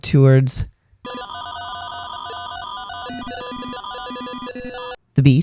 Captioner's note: modem sounds